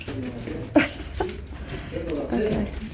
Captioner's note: laughing